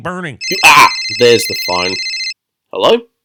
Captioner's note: phone rings